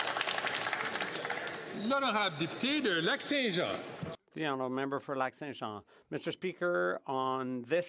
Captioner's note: some Applause